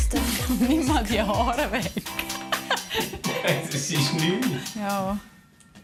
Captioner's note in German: Lachend